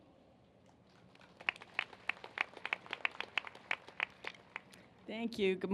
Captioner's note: applause